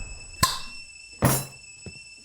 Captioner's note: top popping